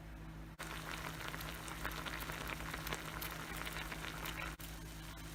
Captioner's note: boiling 🔥